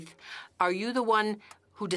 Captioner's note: speaking French